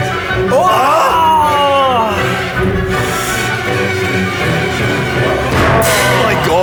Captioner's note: screams